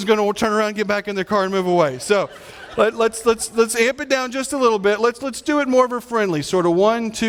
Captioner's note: audience laughing